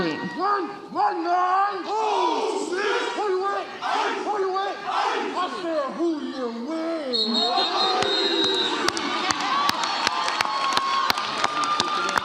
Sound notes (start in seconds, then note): 7.1 whistle blows; 7.4 audience laughs and cheers